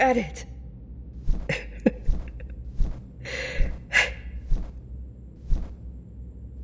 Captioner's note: fade out on giggling and flapping wings